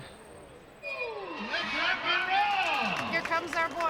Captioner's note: crowd cheers and applauds